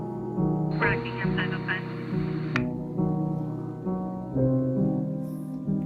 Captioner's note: police dispatch muffled